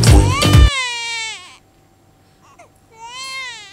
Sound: crying

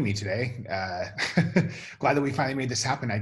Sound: chuckles

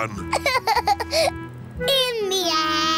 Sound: laughs

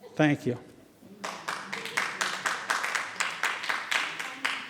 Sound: audience applauding

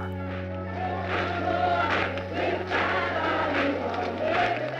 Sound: crowd chanting

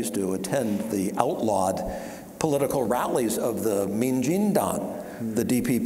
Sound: speaking Taiwanese

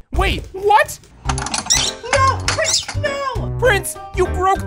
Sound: chirping

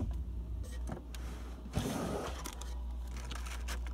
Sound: drawer sliding open; packets rustling

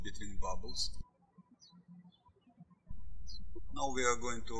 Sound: birds chirping

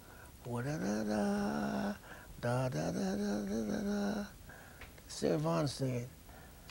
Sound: humms

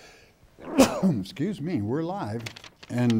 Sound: sneezes

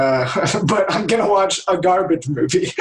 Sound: laughter

